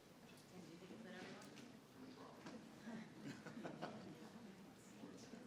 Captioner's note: crowd chatters